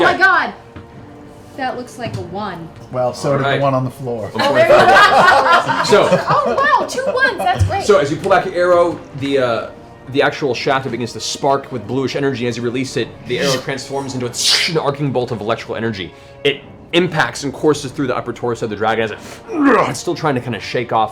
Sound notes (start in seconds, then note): 13.9 energy noises; 19.4 grunts